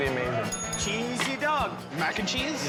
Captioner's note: bell rings